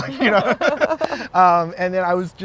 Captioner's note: güler